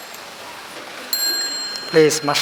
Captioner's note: bell ringing